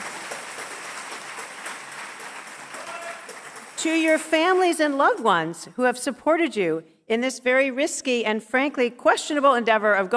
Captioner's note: cheers and applause